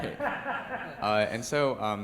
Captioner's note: laughter